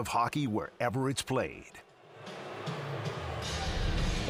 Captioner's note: booing